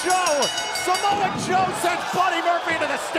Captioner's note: bell ringing